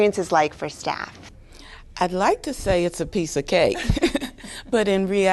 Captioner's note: laughter